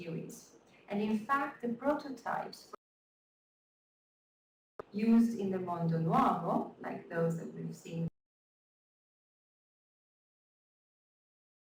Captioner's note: audio lost